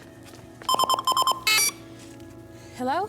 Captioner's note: beeping